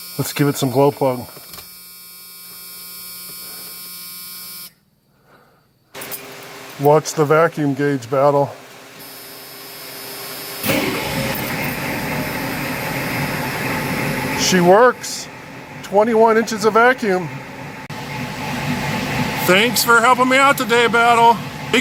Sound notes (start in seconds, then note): 0.0 door buzzer; 9.3 IDI diesel cranks & idles